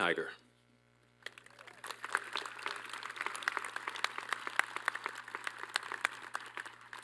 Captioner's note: applause